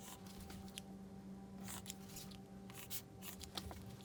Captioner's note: paper crinkling